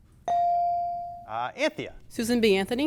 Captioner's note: bell dings